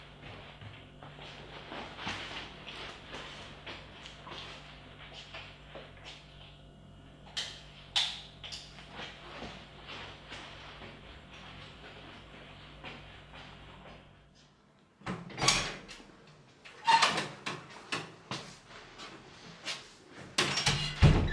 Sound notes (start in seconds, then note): 7.1 lightswitch off; 15.3 door opens and closes